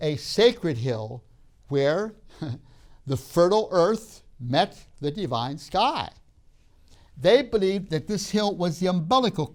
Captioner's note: laughs